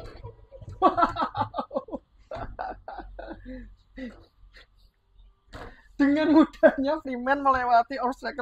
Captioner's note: laughs